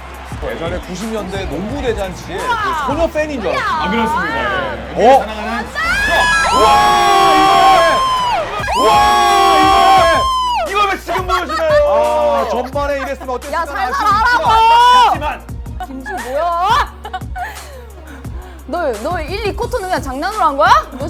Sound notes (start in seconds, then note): 8.5 yelling~~